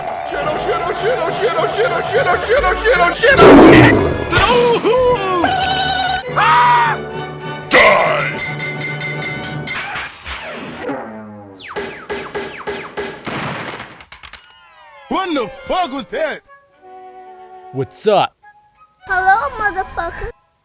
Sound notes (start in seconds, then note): 5.2 scream; 5.3 Spongebob Battle Cry